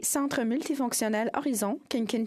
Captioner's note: speaking in French